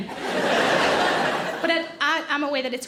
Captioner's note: audience laughing